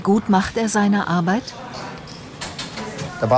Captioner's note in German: Stimmengewirr